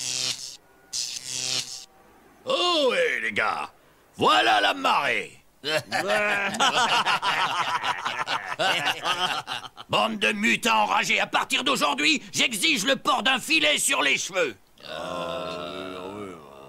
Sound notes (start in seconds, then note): 5.6 French laughs; 9.7 some unknown language